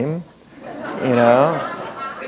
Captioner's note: laughter